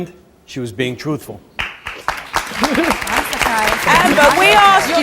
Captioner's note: audience applauds